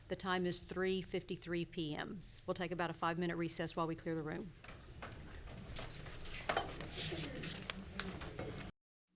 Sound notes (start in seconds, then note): 4.9 people chattering